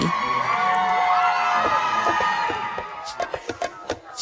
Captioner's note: crowd continues cheering; rhythmic music